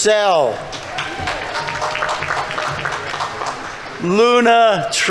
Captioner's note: audience members cheering; audience applauding